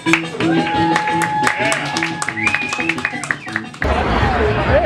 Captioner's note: audience applause